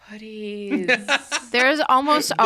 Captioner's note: laughs